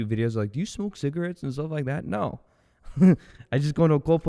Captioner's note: laughs